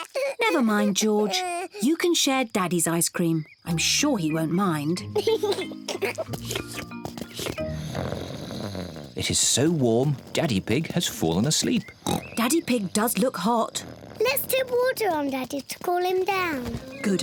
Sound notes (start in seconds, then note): 5.0 giggles; 7.3 snores; 11.8 oinks